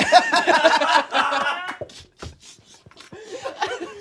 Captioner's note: everyone laughs